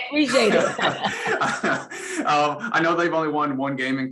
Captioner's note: Matt and Dawn laugh